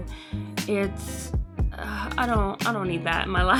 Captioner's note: sigh